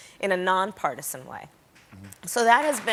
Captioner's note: applause